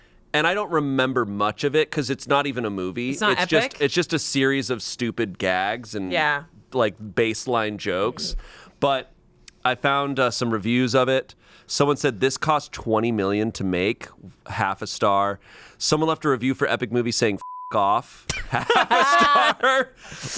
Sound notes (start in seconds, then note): 18.3 group laughs